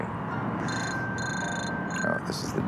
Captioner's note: ring tone